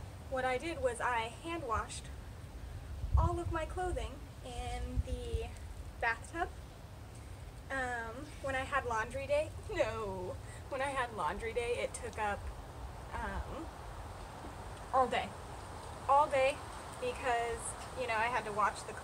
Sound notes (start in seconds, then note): 0.0 wind